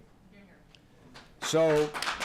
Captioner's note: applause